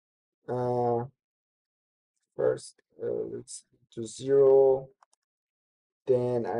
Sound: pause

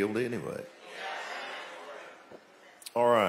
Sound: audience exclaiming

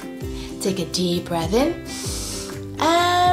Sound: breathes in deeply

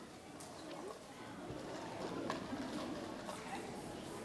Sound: background chatting

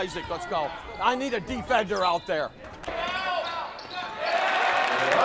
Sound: cheering

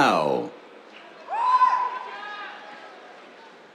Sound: cheers

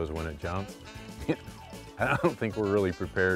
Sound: laughter

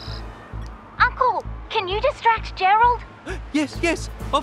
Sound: on phone

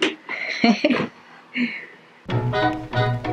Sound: laughing

